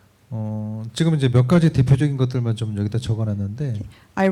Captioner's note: speaking korean